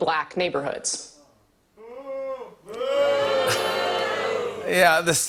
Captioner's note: booing